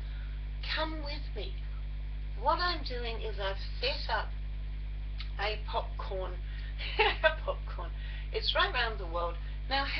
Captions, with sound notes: Come with me. What I am doing is I have set up a Popcorn [ laugh] . Popcorn. It's right round the world.